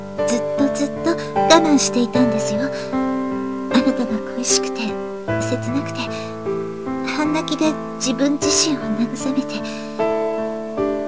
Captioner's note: rain